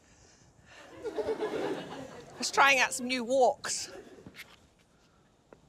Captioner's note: laughter